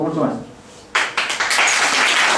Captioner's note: applauses